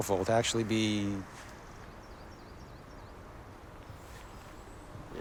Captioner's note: birds chirping